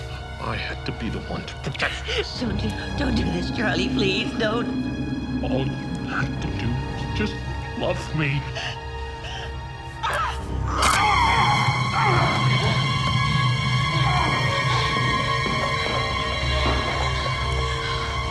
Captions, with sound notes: I had to be the one to protect us. - Don't do this, Charlie, please don't. - All you had to do is just love me. (screams) (ominous music)